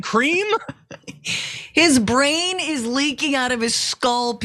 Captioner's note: laugh